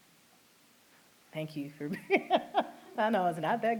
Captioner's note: laughter